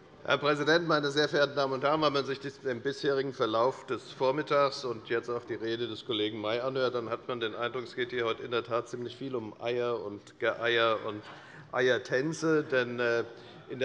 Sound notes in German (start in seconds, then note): none